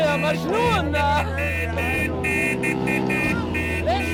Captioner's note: cars honking